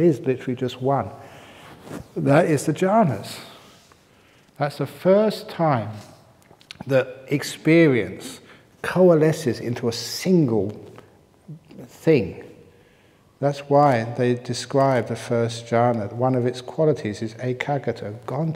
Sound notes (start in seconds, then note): none